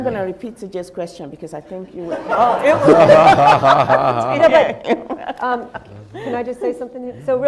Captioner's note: laughing